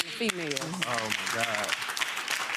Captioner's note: audience clapping